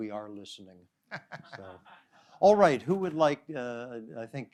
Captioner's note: laughter